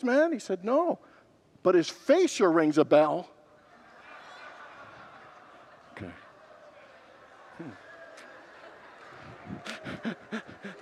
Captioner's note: congregants laugh, moan and applaud